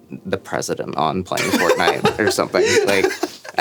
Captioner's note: laughing